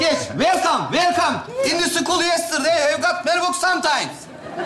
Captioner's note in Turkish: İngilizce konuşmaya çalışır